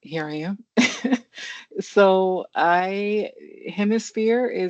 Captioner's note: chuckles